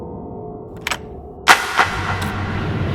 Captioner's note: lock clicks